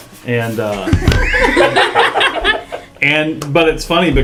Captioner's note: laugh